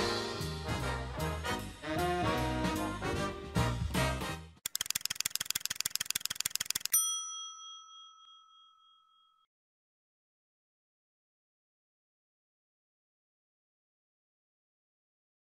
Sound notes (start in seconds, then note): 4.6 timer ticking; 6.8 bell dinging